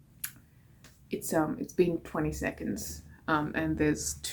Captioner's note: smacks lips